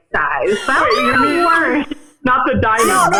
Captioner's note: squealing